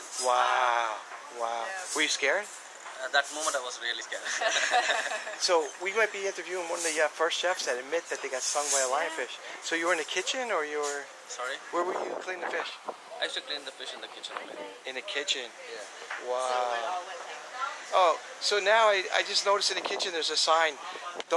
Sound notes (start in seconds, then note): 4.2 laughter